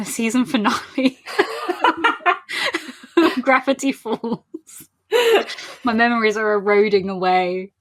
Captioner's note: laughing; laughs